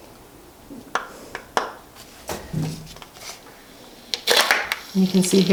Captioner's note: syring clicks